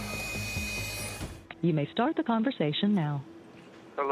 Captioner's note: automated voice